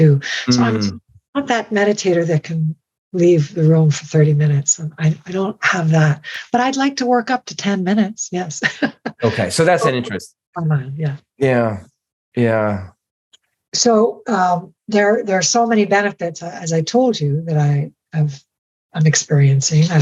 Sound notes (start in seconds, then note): 8.5 laughing